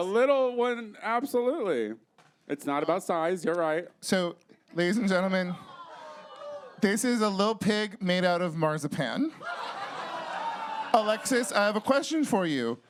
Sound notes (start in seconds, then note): 5.6 audience awws; 9.5 audience cheers